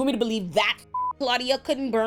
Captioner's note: beep